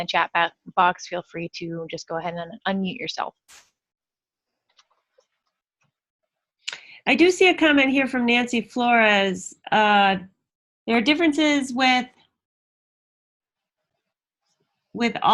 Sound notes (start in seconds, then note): 3.9 silence